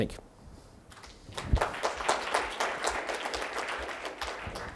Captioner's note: clapping sounds